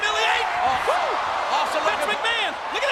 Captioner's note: audience cheers